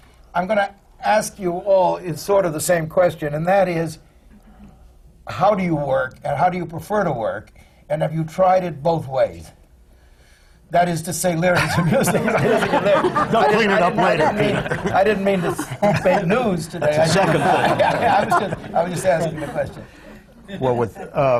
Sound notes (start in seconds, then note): 10.0 laughter